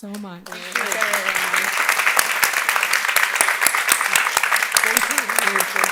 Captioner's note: audience applauding; mumbling